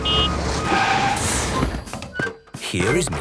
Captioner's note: honking, engine revving